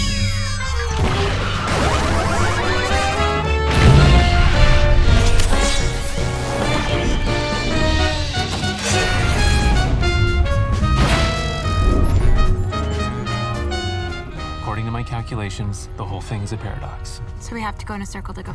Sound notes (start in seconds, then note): 5.3 robot whirs; 11.7 system beeping